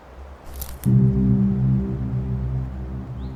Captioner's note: branches snap